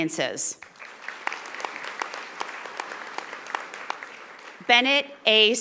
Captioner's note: audience applauding